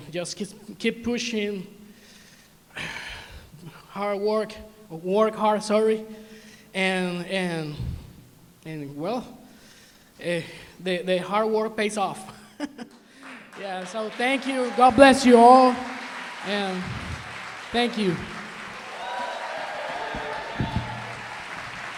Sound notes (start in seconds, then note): 12.3 chuckles; 13.1 applause; 18.5 applause, cheering